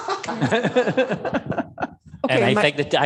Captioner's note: laughter